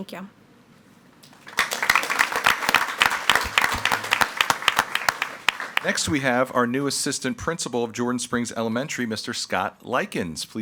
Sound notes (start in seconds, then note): 1.2 all applauding